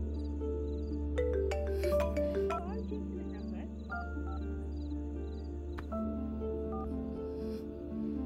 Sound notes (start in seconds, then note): 1.9 phone rings